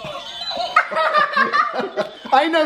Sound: laughing

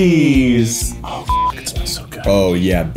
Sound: beep

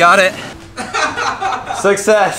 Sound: laughter

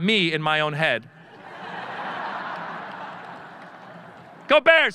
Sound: audience laughing

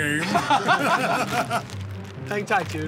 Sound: laughter

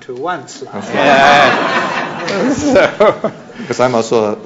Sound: laughter

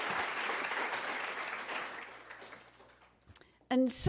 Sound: applause

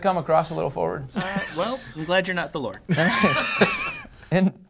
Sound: laughter

